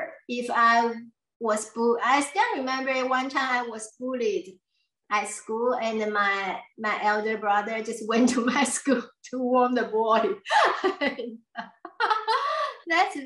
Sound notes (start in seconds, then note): 10.4 laughs